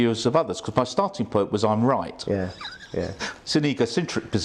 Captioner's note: laughs